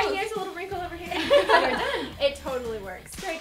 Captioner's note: laughs